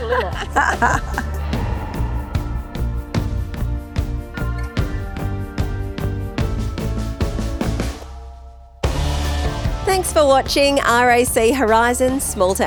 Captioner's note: laughing